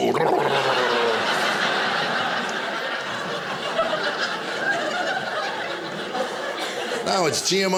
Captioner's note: audience laughing